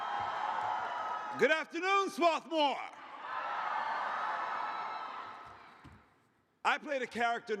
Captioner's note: cheers